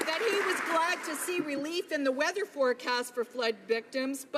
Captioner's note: applause